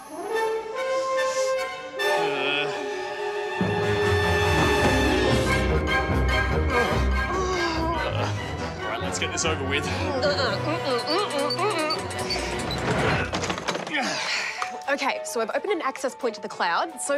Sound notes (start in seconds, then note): 0.1 sinister music; 1.8 groans; 6.6 groans; 14.0 groans